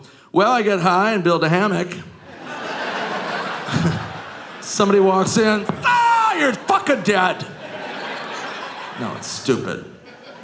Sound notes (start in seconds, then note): 2.2 audience laughing